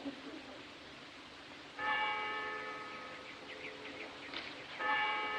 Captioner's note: church Bell Tolling